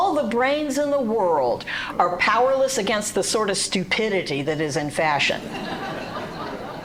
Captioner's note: laughter and applause